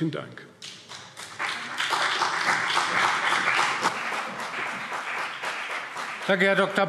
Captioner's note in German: Beifall CDU und BÜNDNIS 90/DIE GRÜNEN